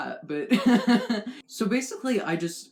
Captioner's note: laugh